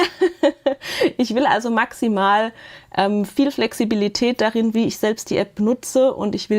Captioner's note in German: Gelächter